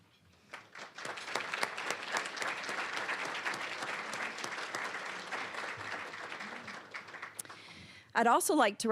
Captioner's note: applause